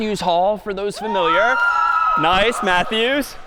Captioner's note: cheering